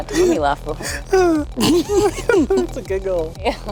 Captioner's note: giggles